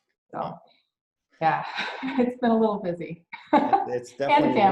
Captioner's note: laughs